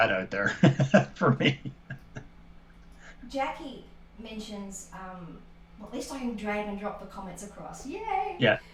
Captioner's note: laughter